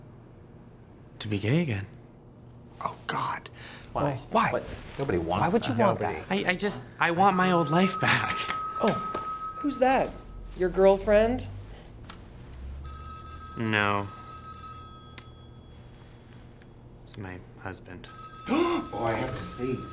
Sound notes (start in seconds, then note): 7.2 phone Ringing